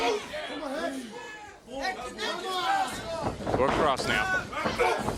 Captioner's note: crowd chatter